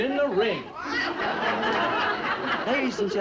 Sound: audience laughs

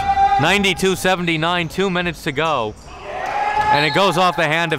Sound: cheering

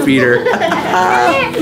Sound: all laughing; laughs

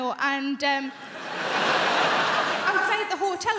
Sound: crowd laughing

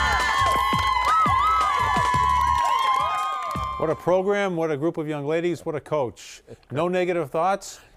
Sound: cheering

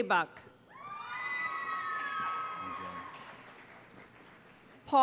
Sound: cheering

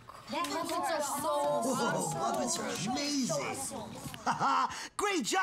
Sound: excited chatter

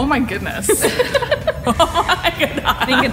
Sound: laughter

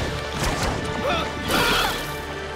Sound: grunting

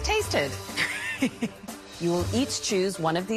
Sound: chuckle

